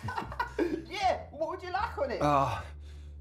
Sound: Tariq laughing

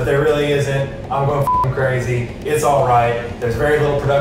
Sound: beep

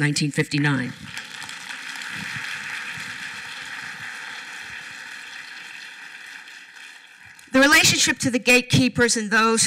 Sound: applause

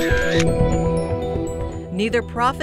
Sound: snap of camera

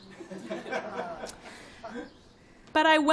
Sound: laughing

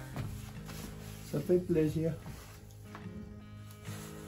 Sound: in French

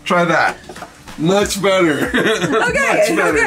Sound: chuckles

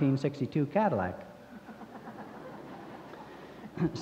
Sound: laughter

